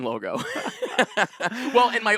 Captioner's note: both laughing